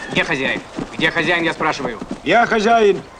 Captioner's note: in russian